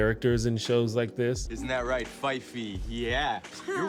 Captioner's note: baby talk